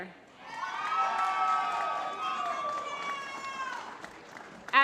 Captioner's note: applause